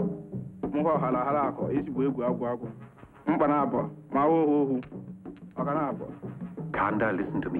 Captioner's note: witch doctor speaking in foreign language